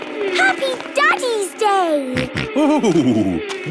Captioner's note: snorting